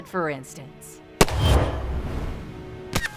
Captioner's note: gunshot